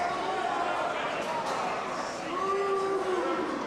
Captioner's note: crowd yells